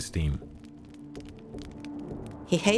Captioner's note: fire crackling